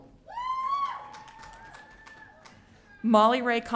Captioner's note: audience cheering